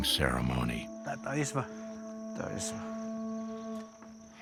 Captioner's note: chatter in Hopi